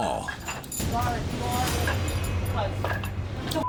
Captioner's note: indistinct chatter